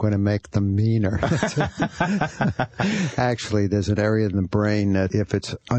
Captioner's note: laughs